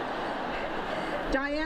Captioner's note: laughter